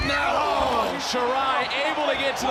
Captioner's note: commentators exclaim